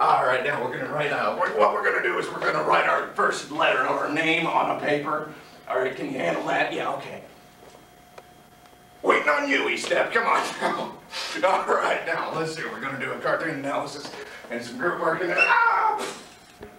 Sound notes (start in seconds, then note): 11.0 giggle